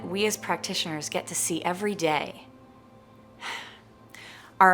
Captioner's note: sighing